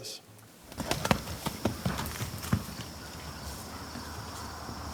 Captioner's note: horse galloping